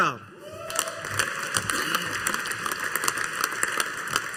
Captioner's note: audience applauding